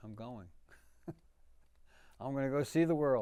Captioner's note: laughing